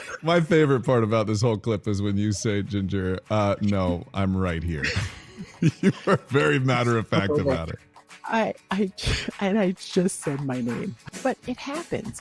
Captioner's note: laughter